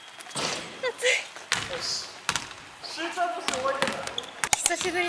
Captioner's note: laugh